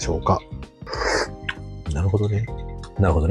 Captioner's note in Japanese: 飲む音